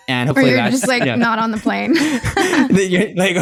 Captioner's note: laughs